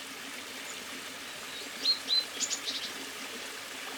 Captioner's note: birds sing